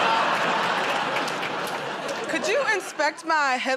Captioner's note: laughter